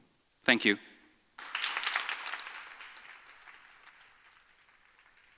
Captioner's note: audience applauds